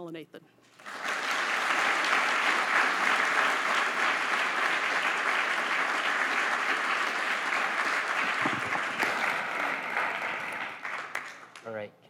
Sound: applause

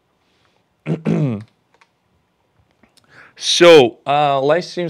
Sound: clears throat

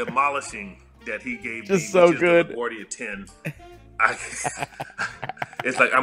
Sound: laugh

